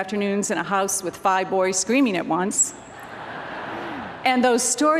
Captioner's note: laughter